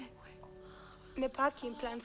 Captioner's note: Hundra whispering